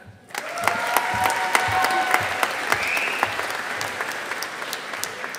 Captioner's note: audience applauding